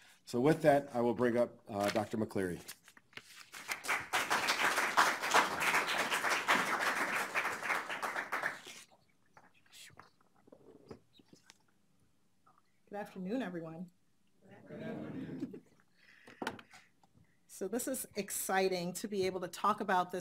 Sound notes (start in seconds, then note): 3.6 audience applauds